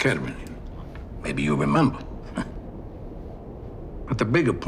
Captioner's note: chuckling